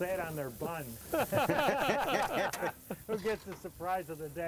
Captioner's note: laughing